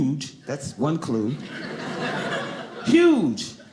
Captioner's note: audience laughing